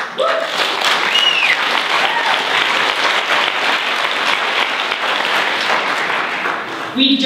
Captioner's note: applause